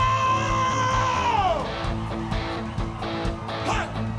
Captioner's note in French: cris d'enthousiasme